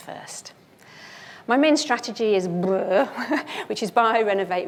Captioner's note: chuckles